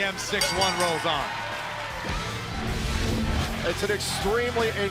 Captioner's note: bell ringing